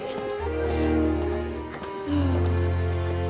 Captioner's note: sighing